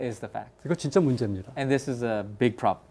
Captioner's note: speaking in Korean